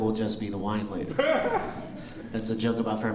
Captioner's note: laughter